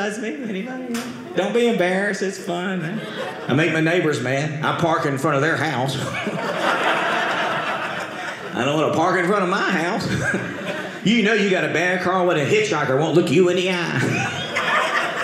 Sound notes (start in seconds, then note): 5.8 audience laughing; 13.9 audience laughing